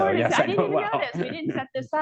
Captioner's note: laughs